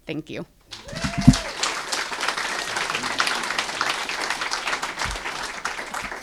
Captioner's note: applause